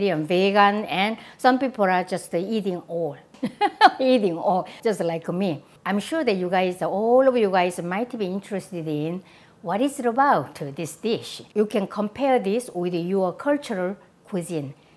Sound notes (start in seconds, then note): 3.4 laughs